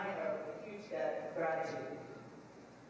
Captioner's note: none